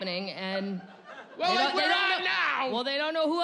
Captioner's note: yelling